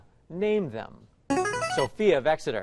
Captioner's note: chiming